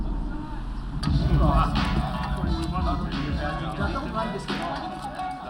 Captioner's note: bar chatter